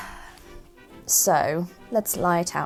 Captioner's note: sighs